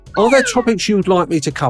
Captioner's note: character whistling